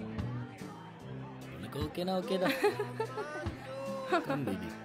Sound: laughing

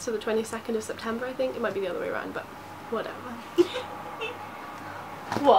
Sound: laughs

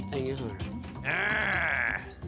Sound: growls

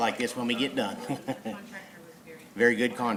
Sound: laughs

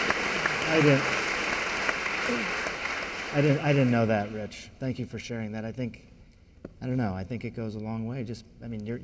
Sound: applause

